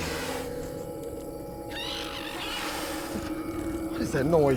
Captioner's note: animal squealing